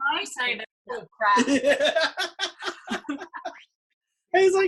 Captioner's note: laughing